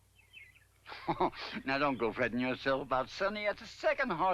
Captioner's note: chuckles